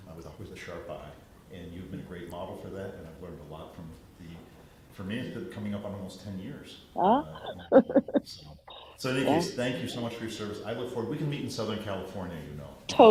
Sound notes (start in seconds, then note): 7.0 laughs